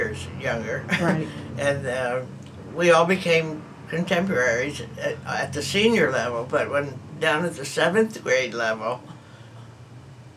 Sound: laughs

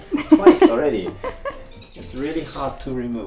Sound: laughing

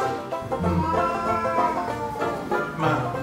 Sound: meow

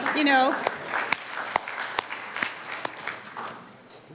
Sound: audience claps

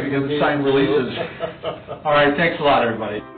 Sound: laughing

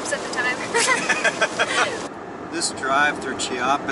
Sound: laughter

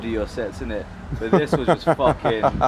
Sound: laughs

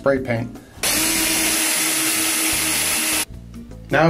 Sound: drill whirring

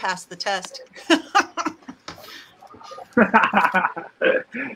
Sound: both laughing

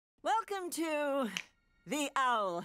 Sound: snaps fingers

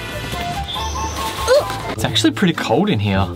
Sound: grunts

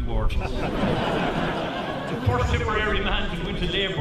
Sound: laughter

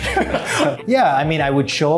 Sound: laughs

